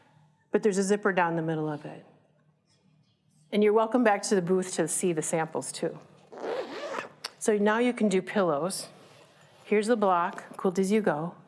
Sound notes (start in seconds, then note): 6.3 zipping